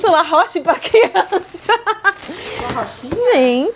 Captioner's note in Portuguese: risos